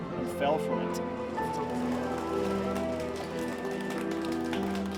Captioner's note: crowd clapping